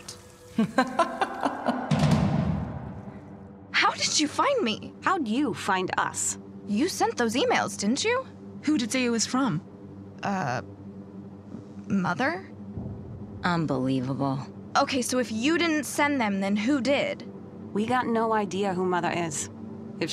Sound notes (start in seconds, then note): 0.5 woman laughs